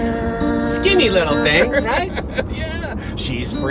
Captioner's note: laughs